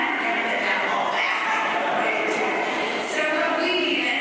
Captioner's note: laughter